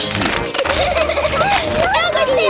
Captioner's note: giggling